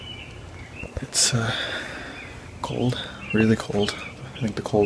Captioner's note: birds chirping